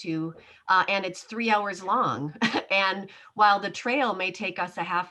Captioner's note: chuckles